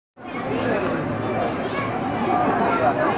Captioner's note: street noise